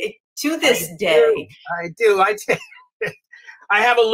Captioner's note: chuckles